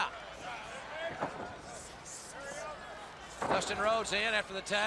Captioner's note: crowd chatter